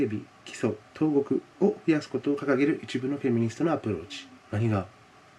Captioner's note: continues in Japanese